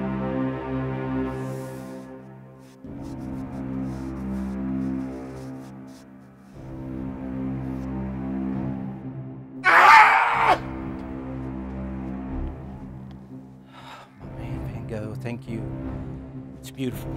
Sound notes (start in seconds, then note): 9.6 screaming; 14.3 sighs